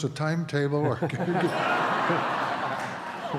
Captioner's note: laughter